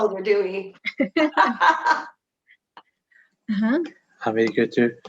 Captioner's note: laughing